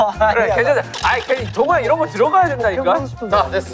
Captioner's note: arguing